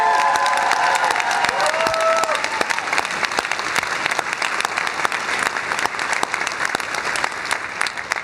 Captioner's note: cheers and applause